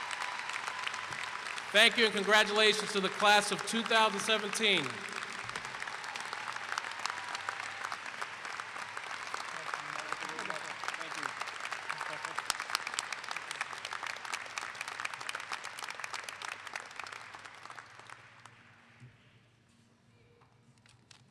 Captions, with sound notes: Thank you and congratulations to the class of 2017! [Clapping]